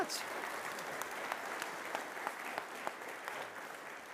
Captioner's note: audience applauds